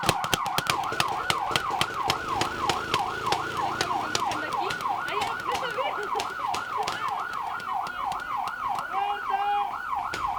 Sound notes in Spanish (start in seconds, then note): 1.5 disparos de juguete